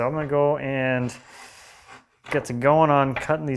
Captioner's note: marking-gauge on wood scraping